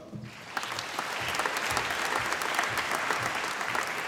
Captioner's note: applause